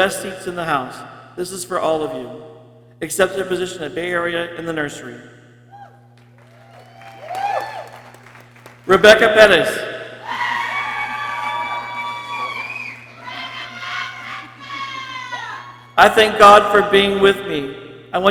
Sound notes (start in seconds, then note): 6.3 people cheering; 10.2 people cheering; 13.3 people exclaiming